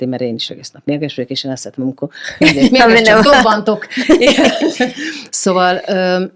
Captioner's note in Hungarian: nevetés